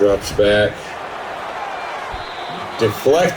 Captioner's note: crowd Noises